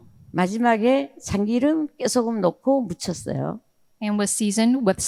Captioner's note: speaking in foreign language